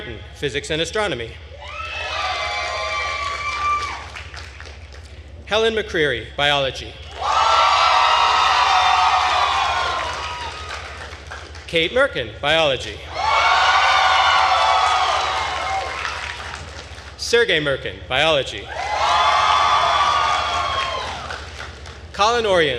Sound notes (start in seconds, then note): 1.6 attendees cheering and applauding; 7.1 attendees cheering and applauding; 13.1 attendees cheering and applauding; 18.7 attendees cheering and applauding